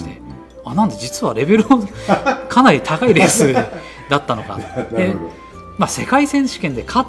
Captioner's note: laughs